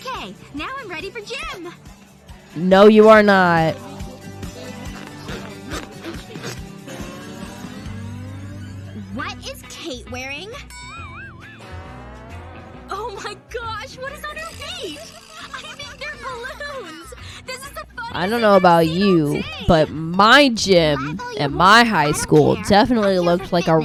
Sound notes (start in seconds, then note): 17.0 laughter